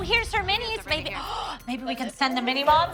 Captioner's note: gasps